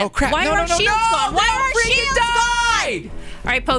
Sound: screaming at the game

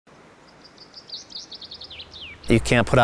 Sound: birds chirping

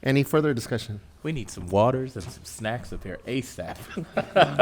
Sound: laughs

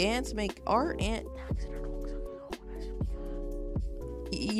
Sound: whispers in End Key’s ear

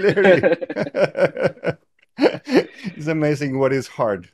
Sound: both chuckling

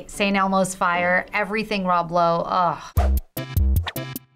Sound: sighing; quirky interlude

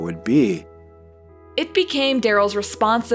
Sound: none

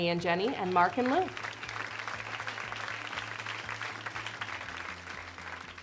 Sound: audience applauds

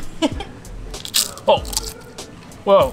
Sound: crunch sound

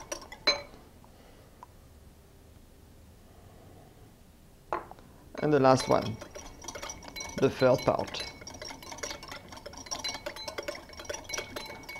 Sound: whisking sounds

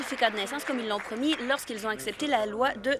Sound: applause

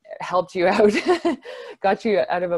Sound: laughs

